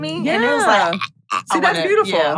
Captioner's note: choking noise